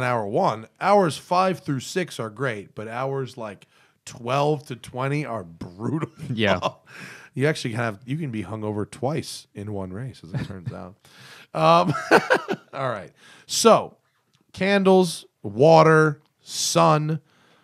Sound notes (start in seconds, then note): 11.8 laughter